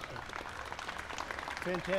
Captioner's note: applause